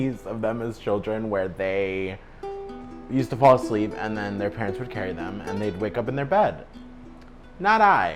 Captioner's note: none